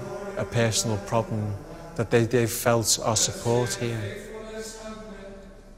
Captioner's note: they chant